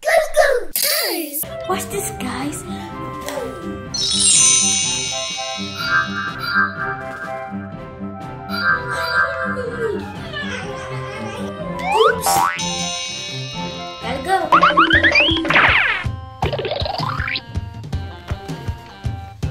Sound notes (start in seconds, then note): 3.9 high-pitched chimes; 5.3 upbeat music; 14.8 upbeat music